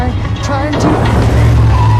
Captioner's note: loud thumping